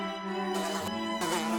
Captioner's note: struggling Fly Buzzing Sound